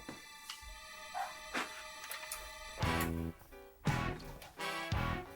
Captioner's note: dramatic music; footsteps crunching; blues music